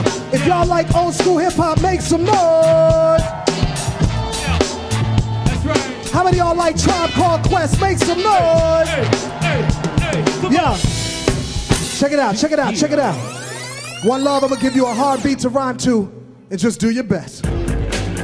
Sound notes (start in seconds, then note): 3.8 audience cheering; 9.4 audience cheering